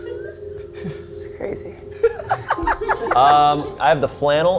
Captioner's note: laughs